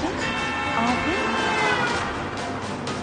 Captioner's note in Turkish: Nihan dış ses; korna sesi; gerilim müziği devam eder